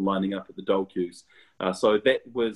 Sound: murmurs

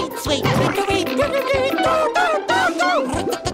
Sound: babbling

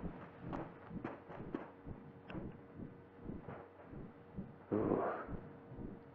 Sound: heart beating sound

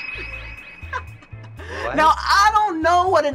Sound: chuckles

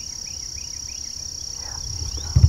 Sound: whispering

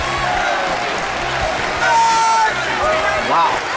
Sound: cheering

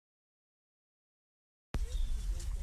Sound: birds chirping

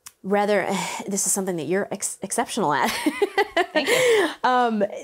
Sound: laughs

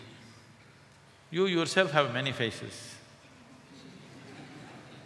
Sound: laughter

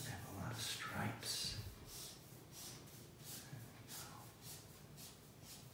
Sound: marker scratching

